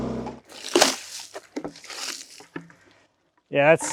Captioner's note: water splashing